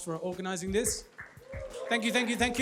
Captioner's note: applause